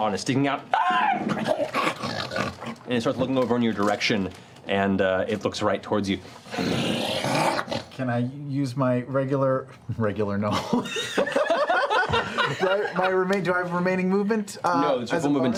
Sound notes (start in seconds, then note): 1.0 squeal, snarl; 6.5 growl